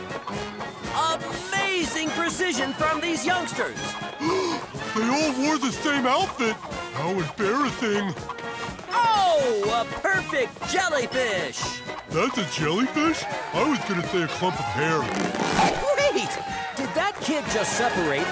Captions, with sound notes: Amazing precision from these youngsters! [gasping] They all wore the same outfit. How embarrassing. Oh, a perfect jellyfish! That's a jellyfish? I was gonna say a clump of hair. Wait, did that kid just separate